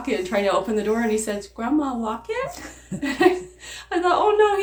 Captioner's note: laughs